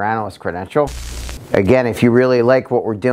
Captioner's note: static buzzing